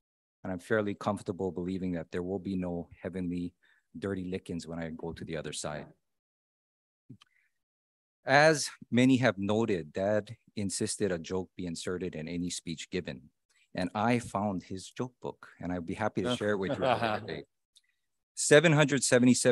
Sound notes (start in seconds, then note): 16.2 laughing in background